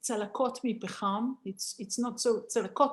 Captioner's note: Hebrew